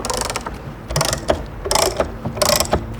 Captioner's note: creaking sound